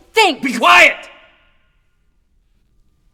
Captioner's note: shouting